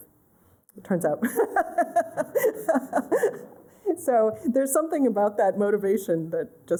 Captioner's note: laughter